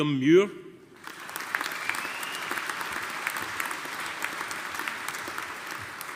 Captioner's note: audience applauding